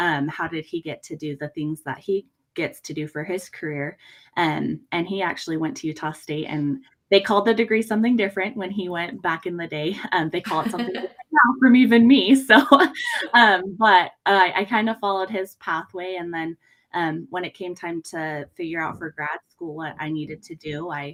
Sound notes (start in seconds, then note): 13.3 laughs